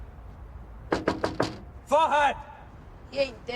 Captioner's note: knuckles rapping